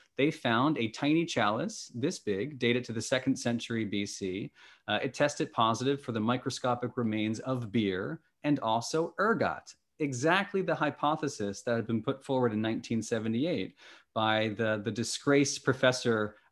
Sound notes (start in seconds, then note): none